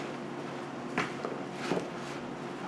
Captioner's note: none